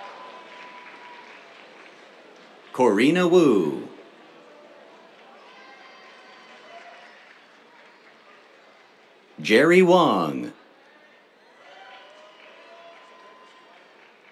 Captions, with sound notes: Corrina Wu. [CHEERS, APPLAUSE] Jerry Wang. [CHEERS, APPLAUSE]